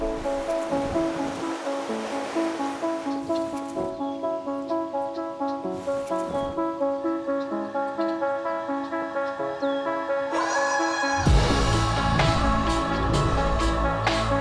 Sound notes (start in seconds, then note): 3.2 birds chattering; 11.0 upbeat music